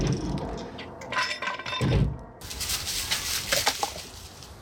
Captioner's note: board thudding